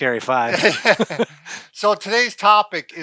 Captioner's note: both laugh